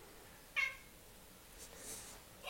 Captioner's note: meow